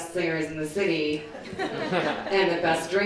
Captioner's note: crowd laughing